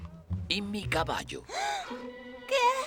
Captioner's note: gasps